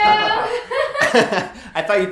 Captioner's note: laughter